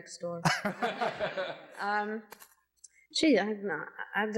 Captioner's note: laughs